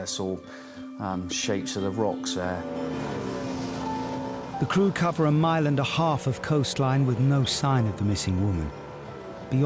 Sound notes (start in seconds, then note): 2.4 lifeboat engine whirring; 2.7 water splashing